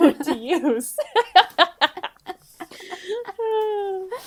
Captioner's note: laughing